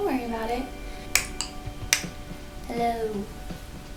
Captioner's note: clicking tongue